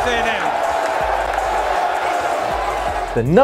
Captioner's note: fans cheering